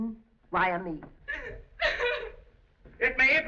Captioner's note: sobbing